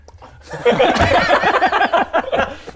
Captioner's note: impressionable laughter